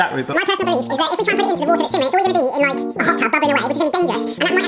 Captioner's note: sped-up talking